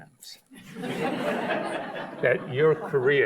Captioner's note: audience laughs